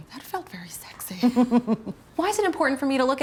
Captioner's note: giggles